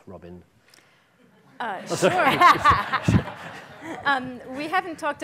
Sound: audience laughing loudly

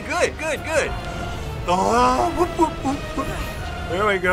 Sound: humming to music

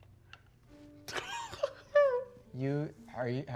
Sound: laughing

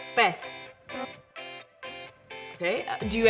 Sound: electronic chime

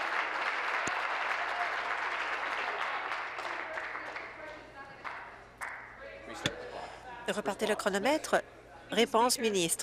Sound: applause

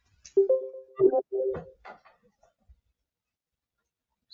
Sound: computer chimes

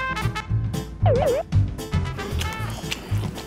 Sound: eating in silence

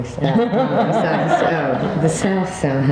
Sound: all laughing

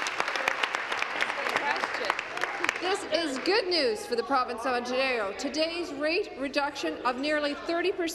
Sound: applause

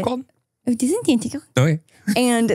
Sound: speaking in gibberish

